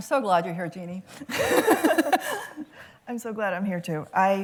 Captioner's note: laughs